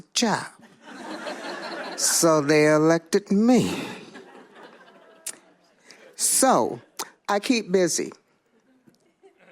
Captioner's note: laughter